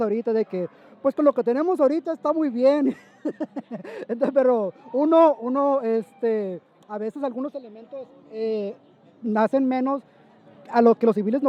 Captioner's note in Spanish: risas